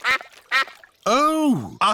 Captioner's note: quacking